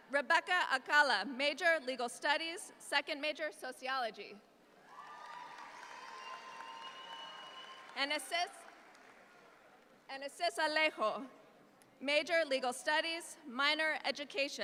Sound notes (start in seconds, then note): 4.8 audience applauds